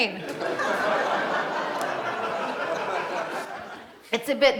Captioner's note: audience laughing